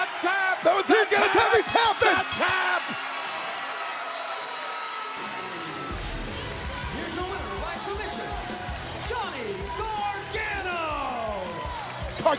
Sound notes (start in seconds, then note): 3.4 bell ringing; 5.3 cheers and applause